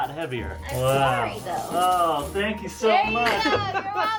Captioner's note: laughs and hugs